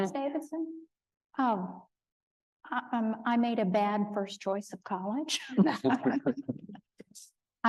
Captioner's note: laughing